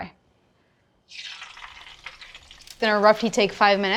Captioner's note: fries sizzling